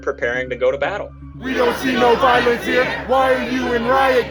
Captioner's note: crowd